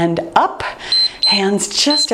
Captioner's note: timer beeps